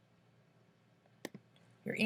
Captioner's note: click